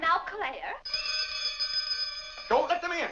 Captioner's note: bell rings